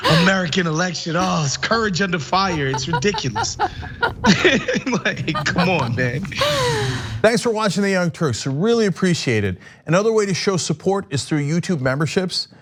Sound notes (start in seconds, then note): 4.8 laugh